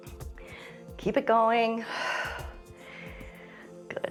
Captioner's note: exhales